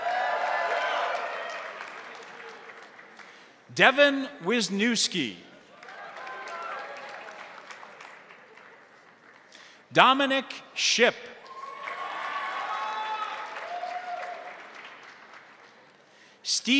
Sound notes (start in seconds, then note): 0.0 crowd cheering; 0.0 crowd applauding; 5.7 crowd applauding; 5.7 crowd cheering; 11.4 crowd cheering; 11.4 crowd applauding